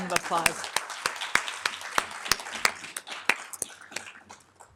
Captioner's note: everybody applauding